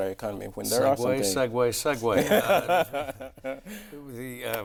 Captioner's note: laughing